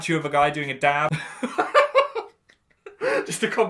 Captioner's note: laughs